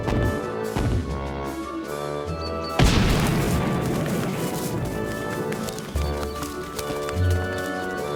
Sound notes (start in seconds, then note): 2.8 powerful stomp